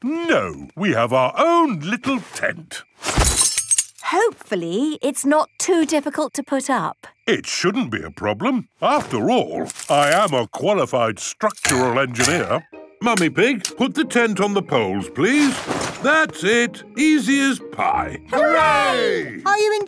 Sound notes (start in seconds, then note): 3.1 clang-ruffle-thump